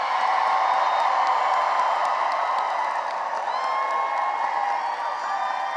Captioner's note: cheering and applause